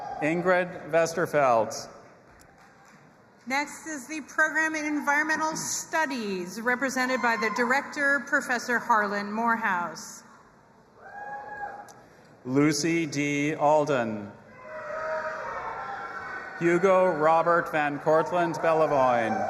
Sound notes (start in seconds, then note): 0.0 audience applauding and cheering; 2.4 audience applauding and cheering; 11.0 audience cheering; 14.8 audience applauding and cheering